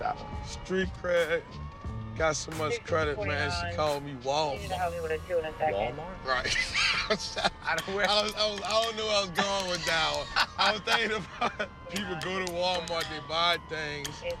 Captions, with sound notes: Street cred-- got so much credit, man, she call me Walmart. Walmart? Right. [laughs] I don't know-- I don't where I was going with that one. [laughs] I was thinking about-- people go to Walmart, and they buy things,